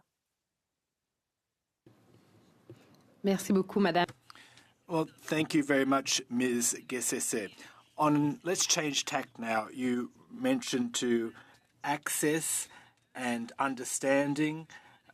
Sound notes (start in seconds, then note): 9.2 speaking French